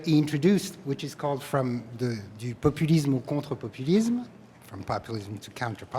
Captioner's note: speaking french